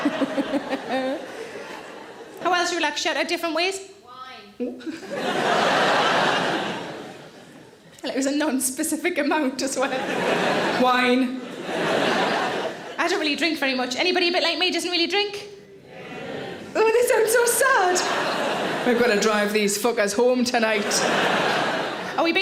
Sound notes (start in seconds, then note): 0.0 Sarah laughs; 4.8 audience laughs; 9.7 audience laughs; 15.9 audience cheers; 18.0 audience laughs; 20.6 audience laughs